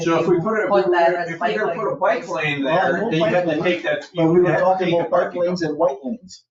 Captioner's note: people chattering